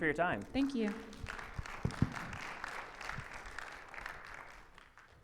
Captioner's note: audience applauding